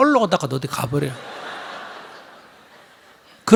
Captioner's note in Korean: 청중 웃음